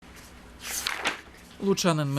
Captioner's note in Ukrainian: Шелест сторінки